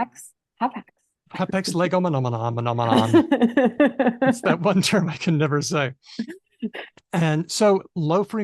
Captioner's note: laughs